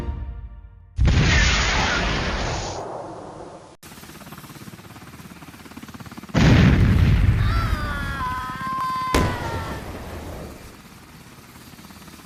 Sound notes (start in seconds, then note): 6.4 explosion; 7.3 scream